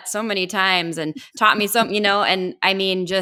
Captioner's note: laughing